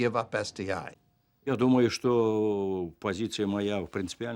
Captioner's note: speaking Russian